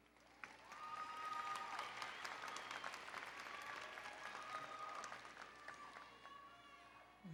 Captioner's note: applause and Cheering